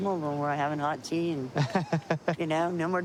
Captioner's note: laughs